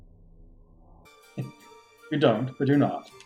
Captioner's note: chuckles